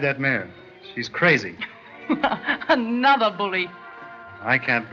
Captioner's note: laugh